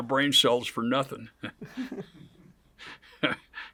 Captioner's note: laughs; chuckles